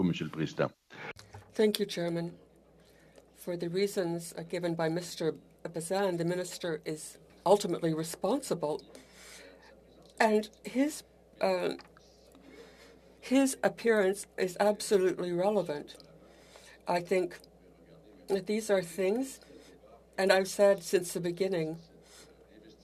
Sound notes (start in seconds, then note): 3.5 speaking French